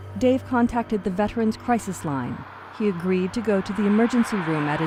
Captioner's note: car engine droning